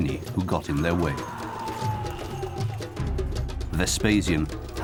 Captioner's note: man yelling